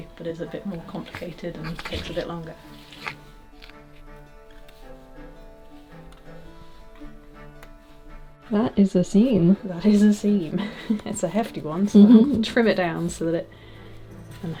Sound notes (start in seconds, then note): 3.4 fabric scraping; 4.9 scissors snipping